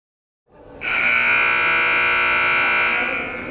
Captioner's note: buzzer